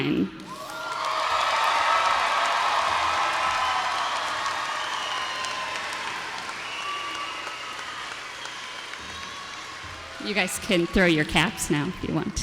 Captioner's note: applause